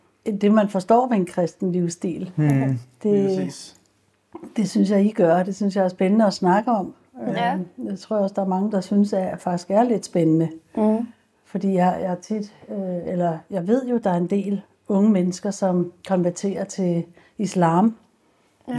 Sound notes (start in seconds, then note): none